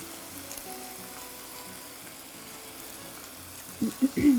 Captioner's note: chicken sizzling